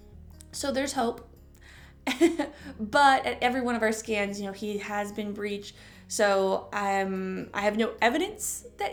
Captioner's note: chuckle